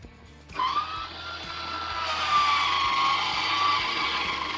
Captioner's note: fan whirling